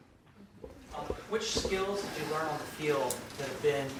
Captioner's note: voiceover